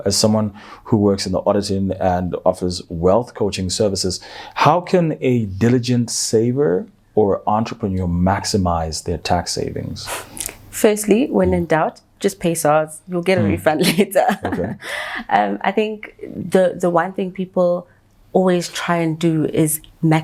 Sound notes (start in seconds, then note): 13.4 chuckles